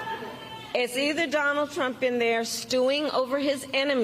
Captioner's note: cheering and applause